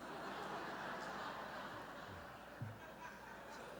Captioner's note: laughter